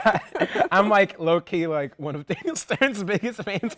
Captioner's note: laughter